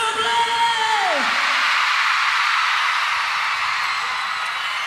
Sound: crowd cheers

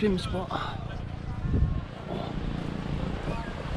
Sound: sound of waves

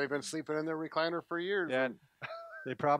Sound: chuckles

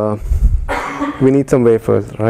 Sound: cough

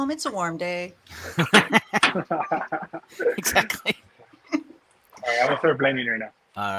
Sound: everyone laughing

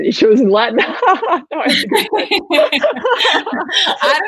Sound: laughing

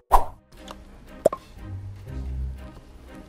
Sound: logo whooshing; suspenseful music; lid pops

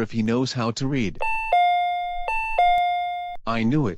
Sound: door chime

